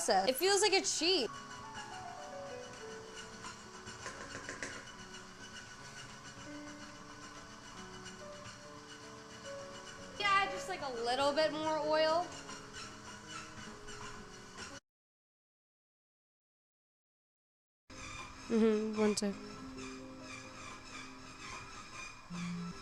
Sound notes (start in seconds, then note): 1.3 whirring; 18.1 soft Music; 18.4 metal Clanking